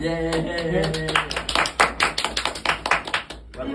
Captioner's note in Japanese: 拍手